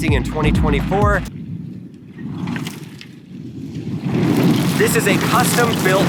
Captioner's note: truck rumbles